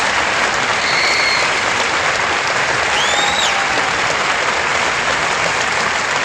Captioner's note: applause